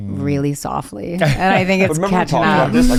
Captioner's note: laughs